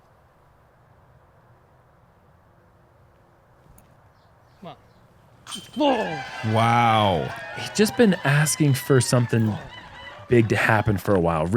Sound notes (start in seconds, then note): 0.0 silence; 5.4 cheering